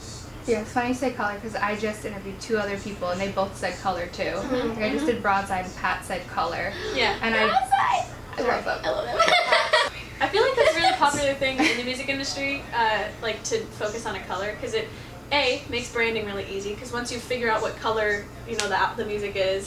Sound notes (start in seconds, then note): 7.9 laughs